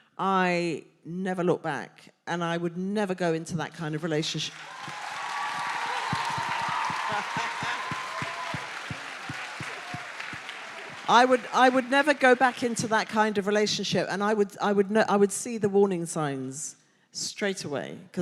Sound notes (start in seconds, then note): 4.5 audience applauding; 4.6 audience cheering